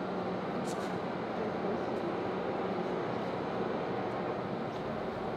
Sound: machine sounds

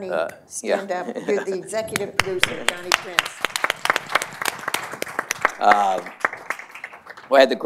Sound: applause

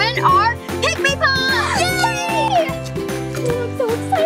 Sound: gasps; upbeat playful music

